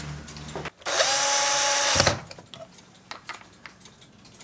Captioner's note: drilling noise